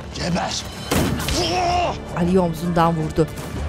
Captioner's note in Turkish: İnleme sesi